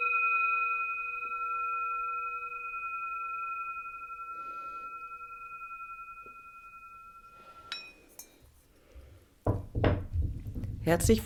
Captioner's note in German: glocke